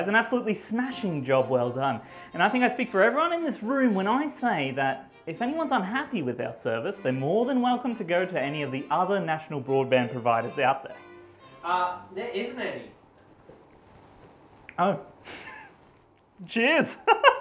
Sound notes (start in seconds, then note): 15.2 chuckles